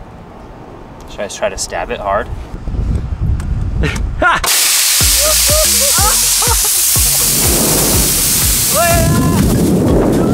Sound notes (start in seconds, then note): 4.4 air hissing